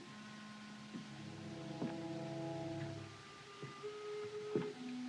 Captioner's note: footsteps